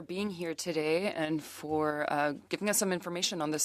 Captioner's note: speaking French